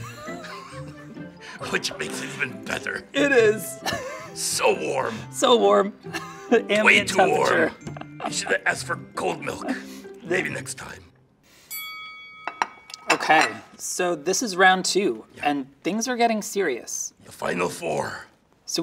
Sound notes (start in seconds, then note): 0.0 chuckles; 3.8 laughs; 11.7 bell pings